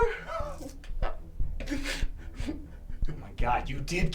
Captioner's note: weeps and sobs